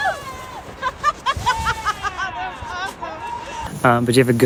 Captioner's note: laughing